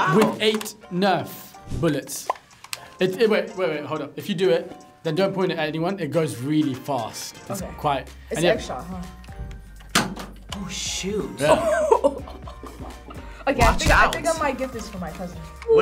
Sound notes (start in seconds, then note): 11.4 laughs